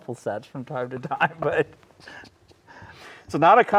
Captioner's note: laughing